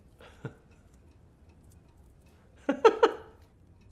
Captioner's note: laughing